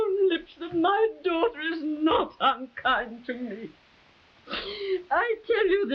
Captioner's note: sobs